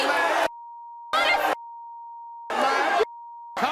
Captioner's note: yelling